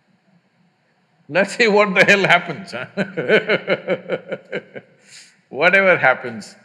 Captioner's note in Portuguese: Risos